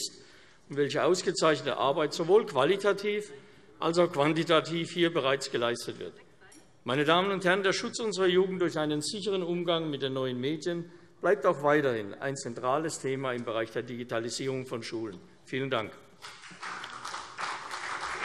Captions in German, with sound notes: und welche ausgezeichnete Arbeit sowohl qualitativ als auch quantitativ bereits geleistet worden ist. Meine Damen und Herren, der Schutz unserer Jugend durch einen sicheren Umgang mit neuen Medien bleibt auch weiterhin ein zentrales Thema im Bereich der Digitalisierung von Schulen. - Vielen Dank. [Beifall CDU und BÜNDNIS 90/DIE GRÜNEN]